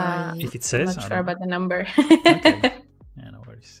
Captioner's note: laughs